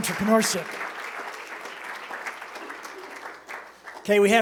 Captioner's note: applause